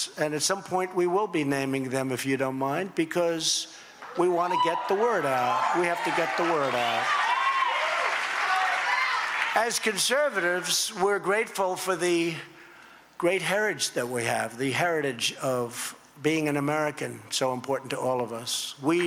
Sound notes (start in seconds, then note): 5.9 applause